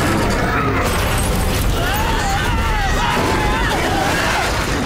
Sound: screaming

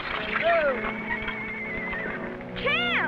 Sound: Champion whinnies

